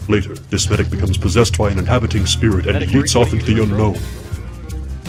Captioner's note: electricity crackles